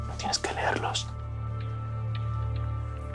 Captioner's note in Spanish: Susurra